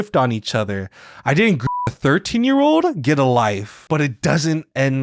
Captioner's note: beeps